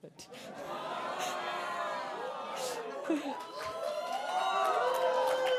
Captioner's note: cheering